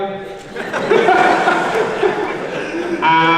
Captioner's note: everyone laughs